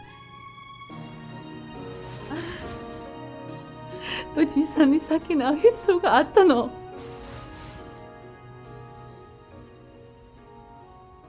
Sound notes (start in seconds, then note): 2.0 Michiko sobbing; 4.9 Michiko speaking in foreign language